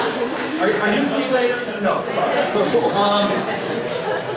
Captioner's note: laughs